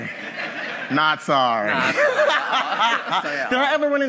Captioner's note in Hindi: हँसी